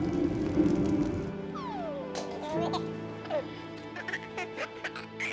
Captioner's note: baby cooing